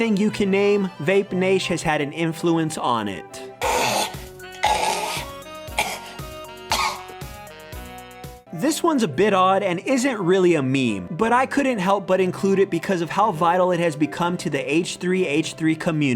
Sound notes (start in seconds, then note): 6.6 Ethan’s gag and cough